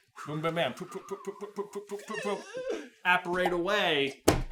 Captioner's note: death rattle